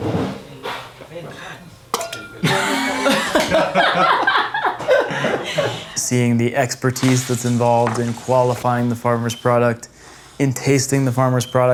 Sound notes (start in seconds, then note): 2.4 laughter